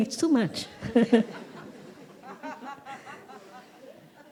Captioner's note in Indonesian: Suara tertawa